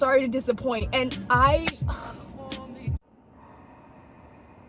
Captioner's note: sigh